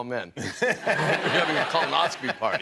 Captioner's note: laughter